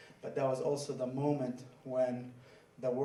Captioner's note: none